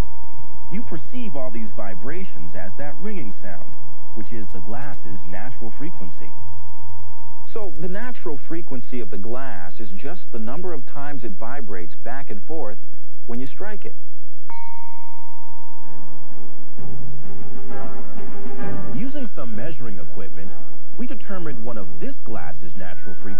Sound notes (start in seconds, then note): 14.5 glass rings